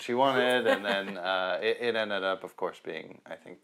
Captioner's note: laughs